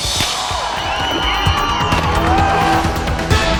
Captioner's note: audience cheering; thrilling music